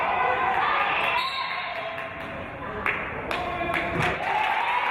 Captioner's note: referee's whistle; applause and cheering